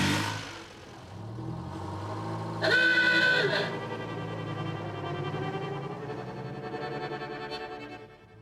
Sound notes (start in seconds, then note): 2.5 horn honks